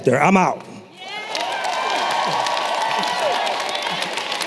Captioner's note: applause